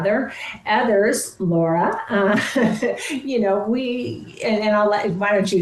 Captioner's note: chuckles